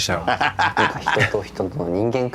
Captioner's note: Trixie chortles